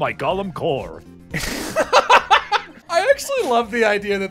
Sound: laughter

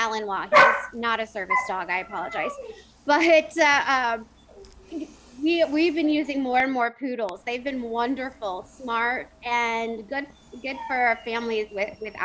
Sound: dog barking

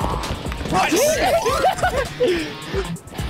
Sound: cheerful giggles

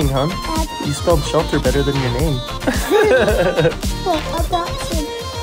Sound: chuckles

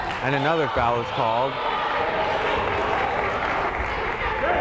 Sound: crowd applauding

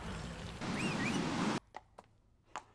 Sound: whistle

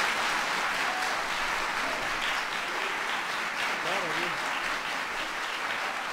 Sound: applause

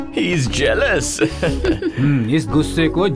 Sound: laughing

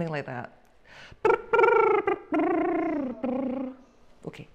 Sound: lip tremble sound

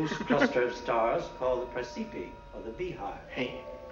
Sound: laughs

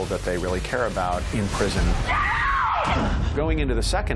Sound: screams

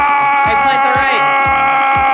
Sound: scream

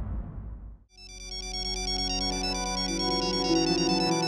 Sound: phone ringing

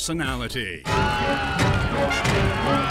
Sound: screaming

